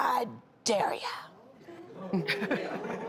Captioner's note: crowd